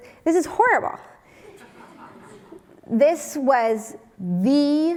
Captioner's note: laugh